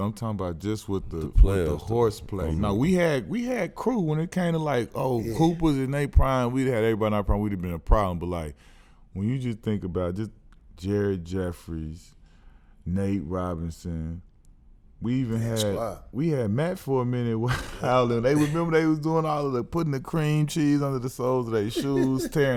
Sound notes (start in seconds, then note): 5.1 murmurs; 17.5 laughs